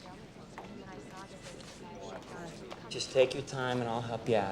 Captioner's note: group chattering